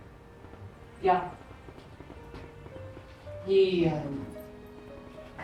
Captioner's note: speaking in German